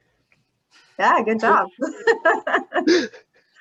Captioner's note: laughs